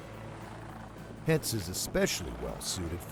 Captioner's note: voiceover